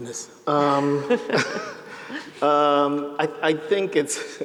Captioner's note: chuckles